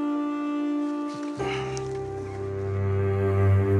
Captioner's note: Grunts